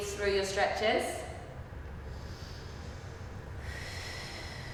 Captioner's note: breathing